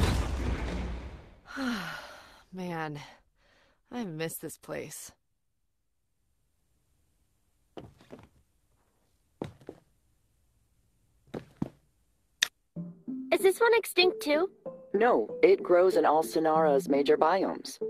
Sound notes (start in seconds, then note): 1.4 sighs